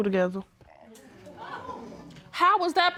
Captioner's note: audience exclaims